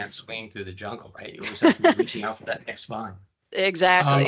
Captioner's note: laughing